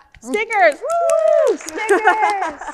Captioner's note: speakers and audience cheering